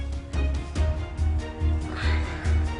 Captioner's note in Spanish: El exhala